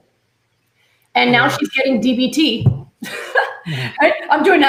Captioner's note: laughs